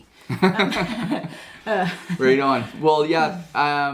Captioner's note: laughs